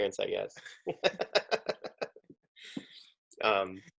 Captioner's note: laughing